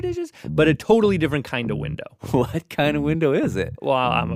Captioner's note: laughs